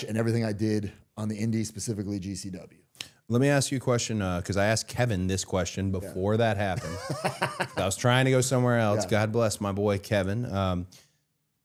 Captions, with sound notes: and everything I did on the Indie, specifically GCW. Let me ask you a question. 'Cause I asked Kevin this question before that happened. (Matt laughing) I was trying to go somewhere else. Yeah. God bless my boy, Kevin.